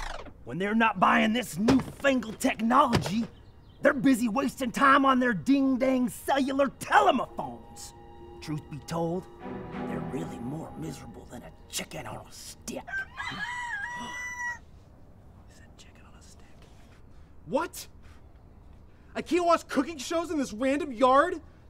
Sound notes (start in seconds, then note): 12.8 rooster crows; 15.1 whispering